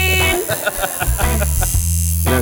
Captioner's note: laughter